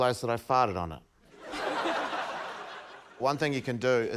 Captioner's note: laughter